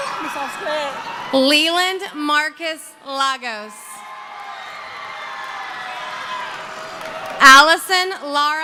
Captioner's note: cheering